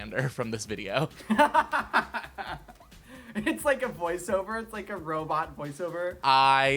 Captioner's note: laughing